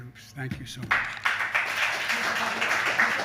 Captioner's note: applause